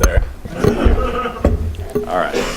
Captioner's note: laughter